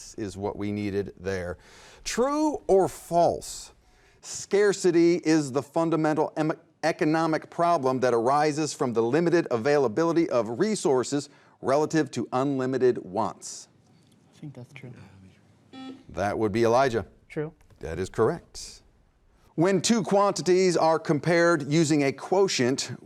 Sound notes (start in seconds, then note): 15.7 beep